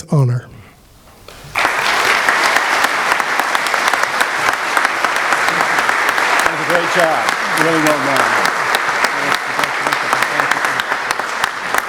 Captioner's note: applause